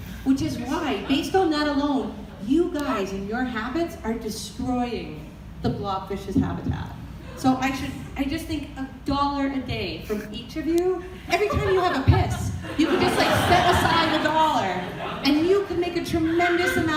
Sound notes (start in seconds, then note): 6.2 audience laughter